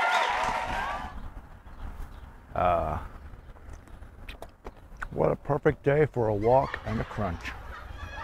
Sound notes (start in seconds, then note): 6.4 laughter